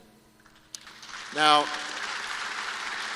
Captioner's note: applause